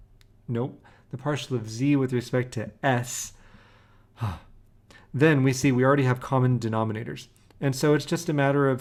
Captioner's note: sighs